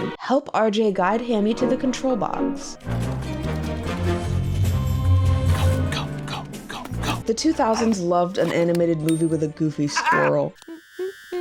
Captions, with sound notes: "Help RJ guide Hammy to the control box." [spy music playing] - [whispering] Go, go go, go. The 2000s loved an animated movie with a goofy squirrel.